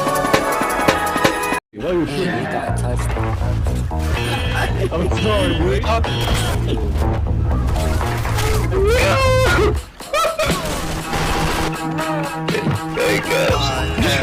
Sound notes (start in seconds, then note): 8.4 beluga Whale noises; 9.9 weird laugh